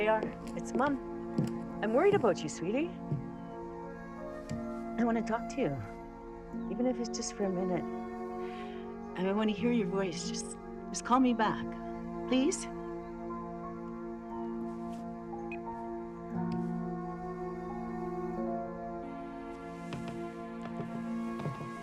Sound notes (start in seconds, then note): 15.2 phone beeping; 16.6 somber music